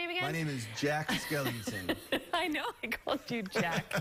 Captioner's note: laughter